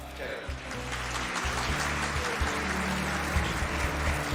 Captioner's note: tepuk tangan